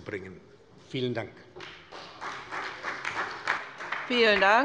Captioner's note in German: Beifall bei der SPD